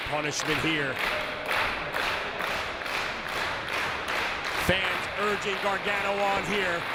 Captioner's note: applause